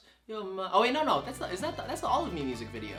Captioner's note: stammers